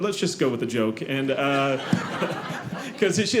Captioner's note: audience laughing